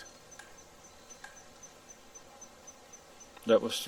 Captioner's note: knocks whacking distantly